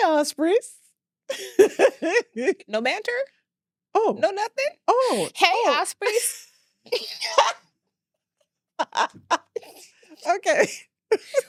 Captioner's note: laughs